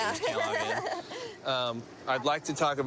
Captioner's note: nervous laughter